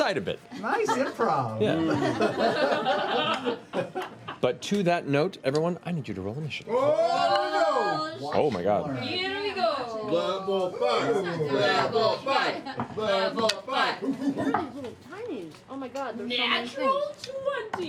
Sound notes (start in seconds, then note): 12.4 chanting